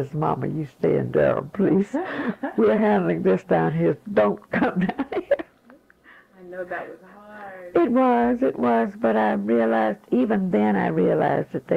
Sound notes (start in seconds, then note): 2.0 interviewer laughs